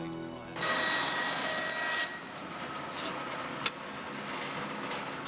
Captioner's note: dramatic music; head thudding; power tools whirring